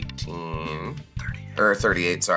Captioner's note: whispers